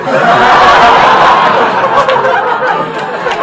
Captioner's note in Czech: Smích